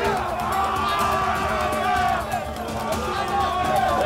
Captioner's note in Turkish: Bağrışma sesleri